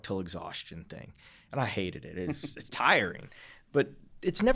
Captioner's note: chuckling